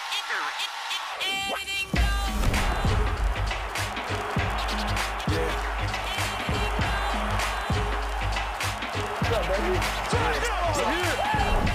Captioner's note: cheering